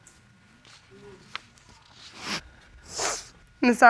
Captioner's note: sniffles